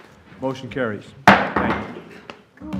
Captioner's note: gavel